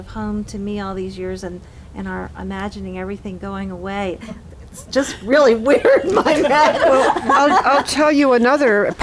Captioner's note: laughter